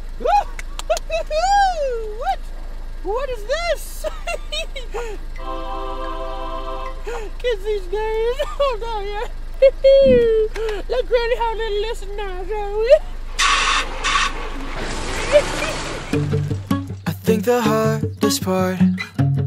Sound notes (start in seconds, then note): 12.0 car engine revving